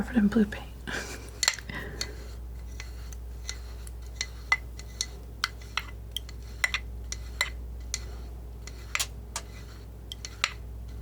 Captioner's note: scratching